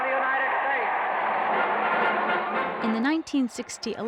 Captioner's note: crowd cheering